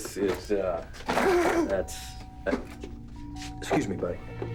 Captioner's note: doorbell ringing